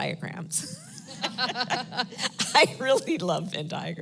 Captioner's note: laughs